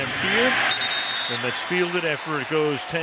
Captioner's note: whistle blows